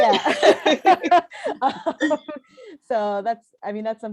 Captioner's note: laughter